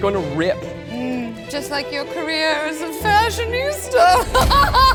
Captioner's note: laughs